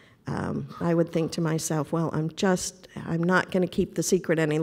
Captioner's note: none